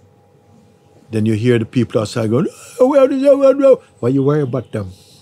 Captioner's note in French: cris de colère